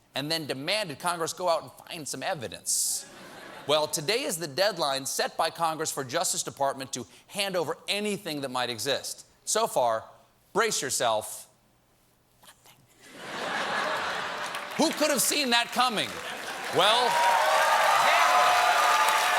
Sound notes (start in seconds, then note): 13.0 laughter; 18.8 cheers and applause